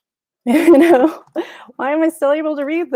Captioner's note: chuckles